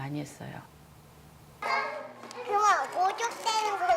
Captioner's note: speaks korean